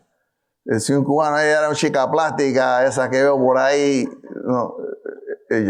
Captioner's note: speaking in foreign language